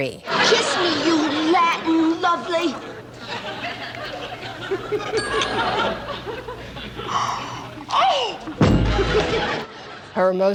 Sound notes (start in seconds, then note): 3.1 laughter